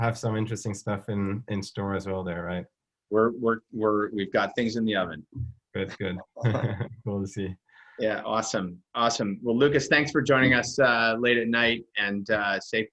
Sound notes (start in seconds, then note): 5.9 chuckles